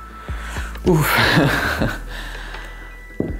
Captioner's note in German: Er atmet schwer